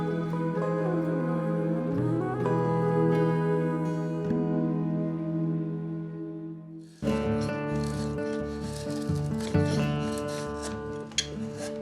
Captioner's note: scraping against wood